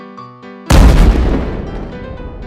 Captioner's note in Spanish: Explosión